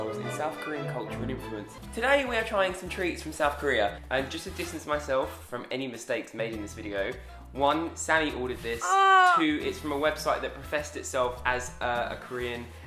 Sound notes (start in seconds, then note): 8.8 comical groan